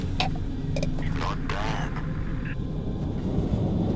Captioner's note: radio